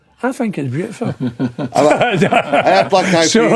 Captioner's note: laughing